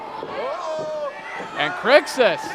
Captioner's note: crowd clamoring